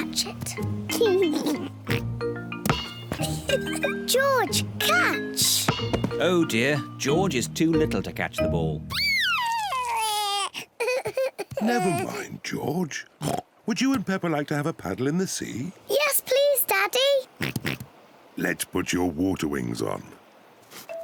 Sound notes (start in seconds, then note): 0.2 both laugh; 8.9 crying; 17.4 oinks